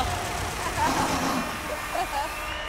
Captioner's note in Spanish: Aplausos